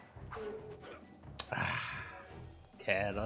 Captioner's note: tut, and sigh!